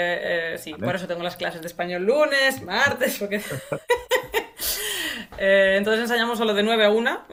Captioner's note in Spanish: risas